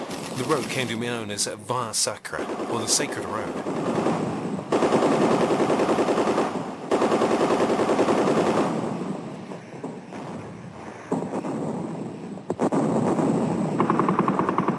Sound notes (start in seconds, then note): 4.8 artillery firing rapidly; 11.1 explosions blasting